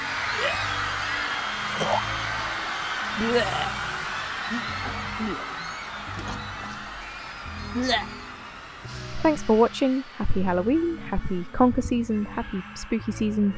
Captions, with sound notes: [distant screaming and continued retching] Thanks for watching, Happy Halloween, happy conker season, happy spooky season...